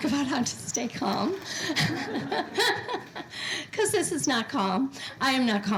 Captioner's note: laugh